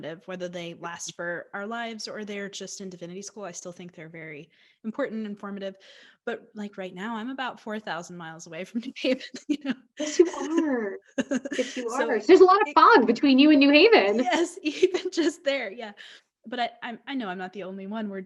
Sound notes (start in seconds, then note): 9.9 laughs